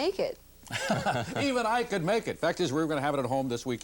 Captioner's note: laughing